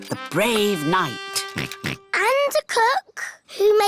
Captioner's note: chuckles; oinks